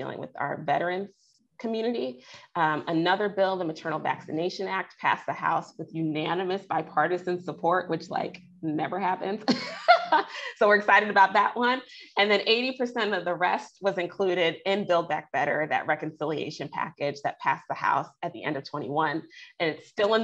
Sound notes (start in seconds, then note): 9.5 laughs